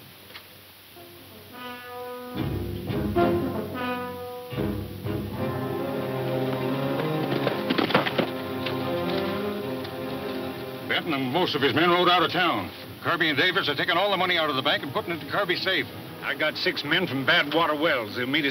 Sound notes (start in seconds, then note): 0.3 intense dramatic instrumental music; 6.4 hooves clunking